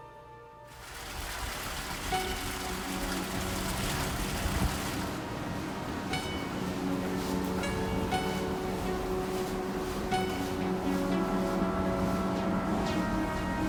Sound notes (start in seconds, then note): 0.6 soft Japanese music; 0.6 water splashing